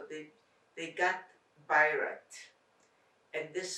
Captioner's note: non-english